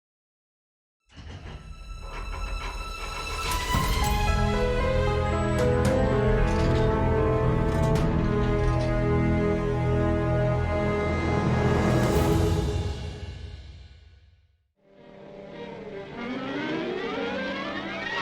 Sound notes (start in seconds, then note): 1.4 metal clanking; 1.4 mysterious music; 15.0 dramatic music